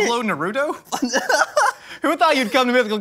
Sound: laughing

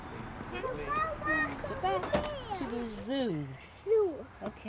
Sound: mom and kids talking

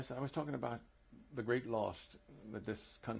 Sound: none

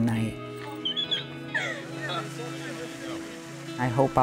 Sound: squealing

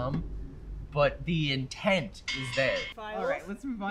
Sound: bell rings

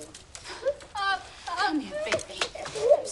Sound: Mazzi sobbing

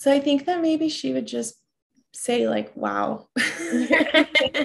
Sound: laughs

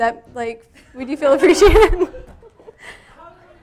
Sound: laughs hysterically

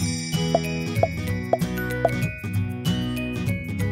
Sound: bright music; dots popping

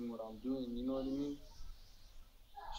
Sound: child faintly speaking

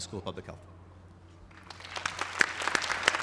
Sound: applause

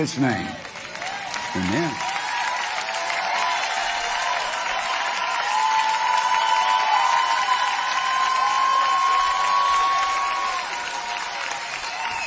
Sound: congregants cheering

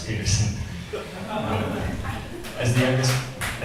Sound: audience laughs

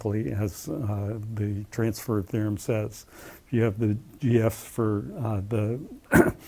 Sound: cough

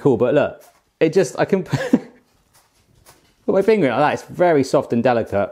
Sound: laughs

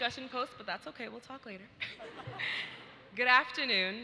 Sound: audience laughs

